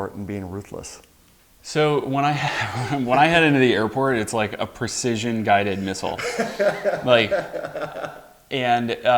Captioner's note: laughs